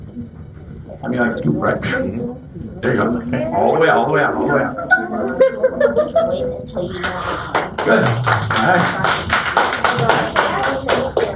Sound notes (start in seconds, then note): 6.3 laughter; 8.6 applause